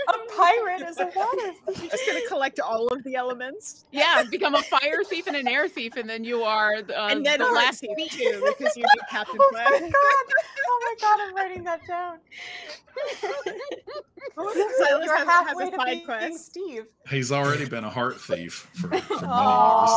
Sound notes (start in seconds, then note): 12.7 all laughing